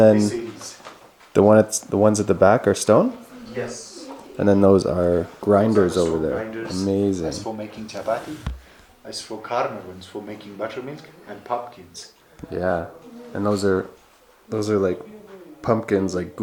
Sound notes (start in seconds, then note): 9.4 speaking in foreign language